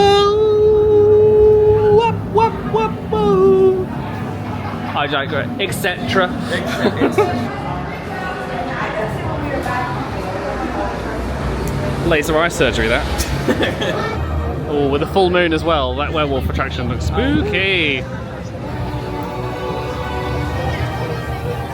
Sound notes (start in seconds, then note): 8.9 guests chattering; 18.6 dramatic music